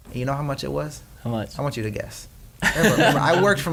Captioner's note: laughs